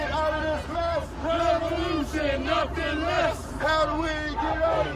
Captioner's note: crowd